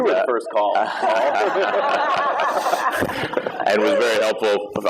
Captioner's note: laughter